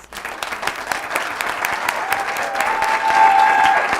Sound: cheering and applause

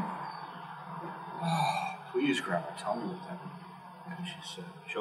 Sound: sigh

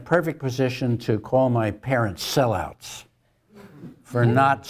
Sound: laugh

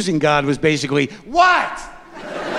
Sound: laughter

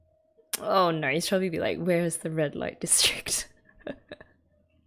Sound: laughs

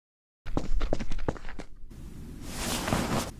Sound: walking

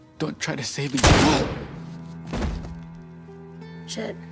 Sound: gunshot

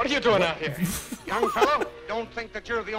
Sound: laughs

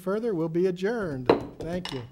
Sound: gavel taps

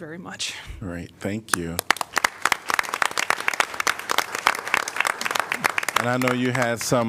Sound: applause

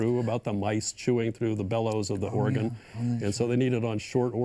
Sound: none

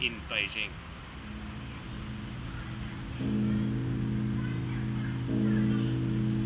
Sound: gong noise in background

